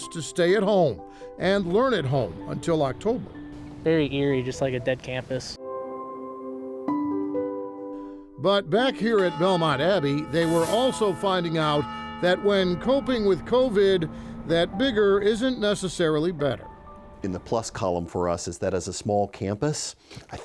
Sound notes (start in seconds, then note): 5.7 light music; 10.1 bells ringing